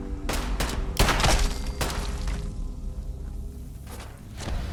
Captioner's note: gunshots firing